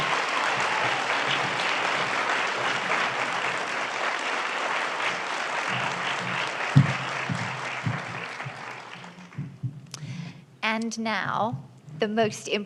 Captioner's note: applause